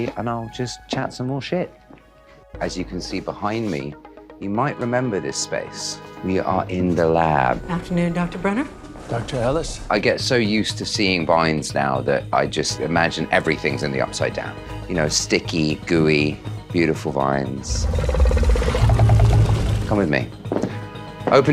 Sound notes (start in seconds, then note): 17.6 growling